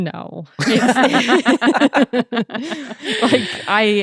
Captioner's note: everyone laughing